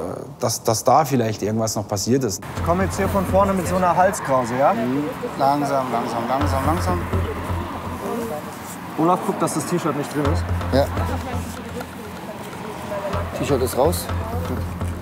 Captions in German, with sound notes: Dass da vielleicht noch was passiert ist. Ich komme jetzt von vorne mit einer Halskrause, ja? - Mhm. Langsam, langsam, langsam. (Angespannte Musik) Olaf, guck, dass das T-Shirt nicht drin ist. - Ja. (Leise Stimmen im Hintergrund) T-Shirt ist raus. - Gut.